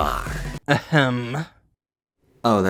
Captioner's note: ahem